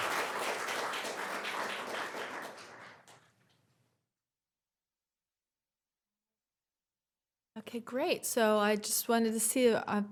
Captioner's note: applause